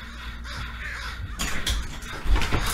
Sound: screen door creaks

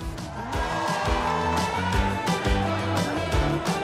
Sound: audience cheering; upbeat music

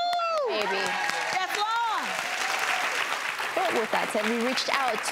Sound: audience cheers

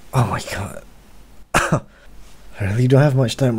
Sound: cough

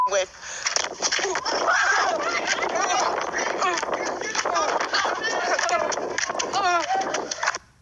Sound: shouting

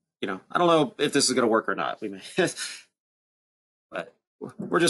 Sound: chuckles

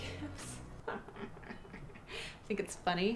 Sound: chuckles

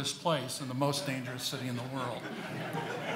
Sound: audience laughing

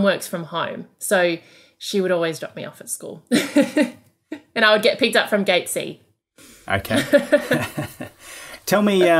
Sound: laughing

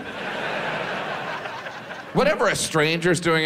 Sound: audience laughs

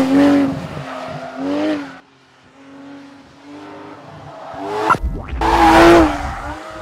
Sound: VROOOOMMMMMMmmmmmm

